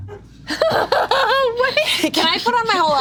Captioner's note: laughs